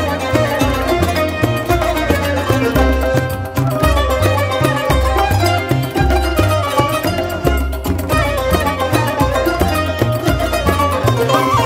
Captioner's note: clap